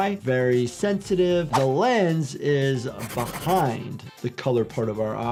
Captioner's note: pencil scratches